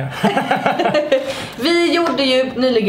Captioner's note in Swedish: Båda skrattar